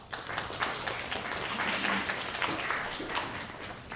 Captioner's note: audience applause